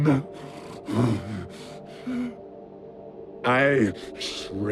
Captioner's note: panting